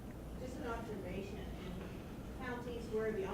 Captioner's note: voiceover